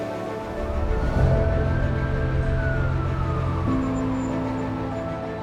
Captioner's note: sirens blaring